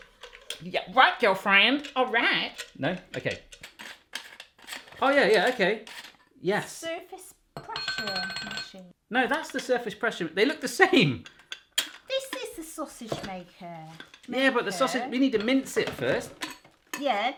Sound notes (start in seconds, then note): 7.6 metal clanging